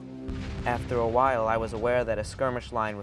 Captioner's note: voiceover